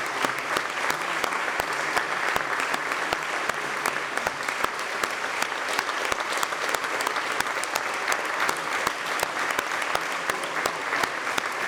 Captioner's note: applause